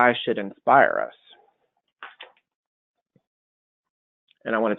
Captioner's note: silence